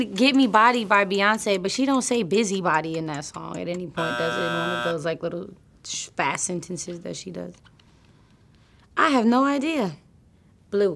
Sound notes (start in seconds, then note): 3.9 clock ticking, buzzer